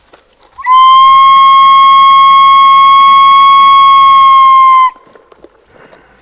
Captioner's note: whistling mimicking a coyote howling